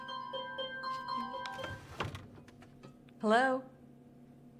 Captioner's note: phone ringing